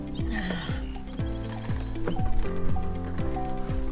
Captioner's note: sighing